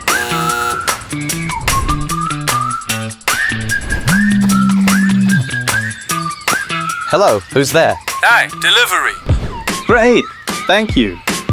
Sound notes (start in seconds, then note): 0.0 intercom doorbell sound; 4.6 phone vibrating sound